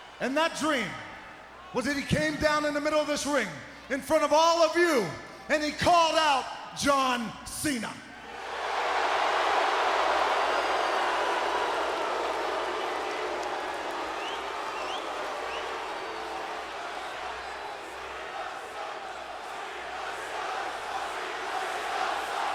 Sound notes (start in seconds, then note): 9.1 crowd cheering; 18.9 crowd chanting